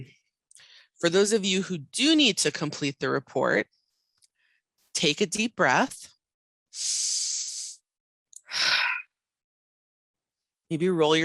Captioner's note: audible inhale, audible exhale